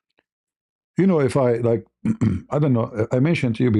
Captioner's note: berdehem